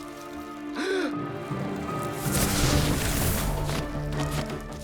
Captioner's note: suspense music; Brax gasps; action music